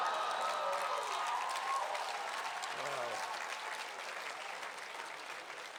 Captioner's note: cheers and applause